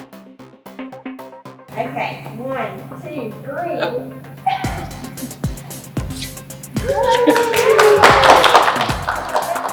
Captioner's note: applause